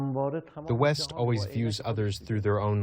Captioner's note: through translator